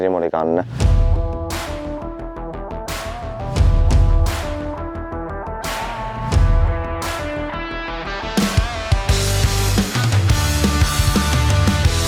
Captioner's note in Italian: Applauso